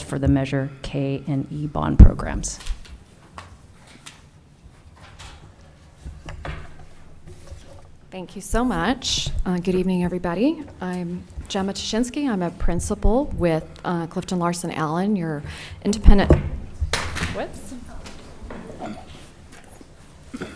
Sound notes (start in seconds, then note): 17.0 clutches cluttering